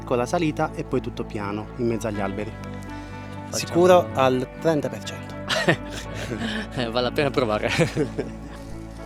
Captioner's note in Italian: risate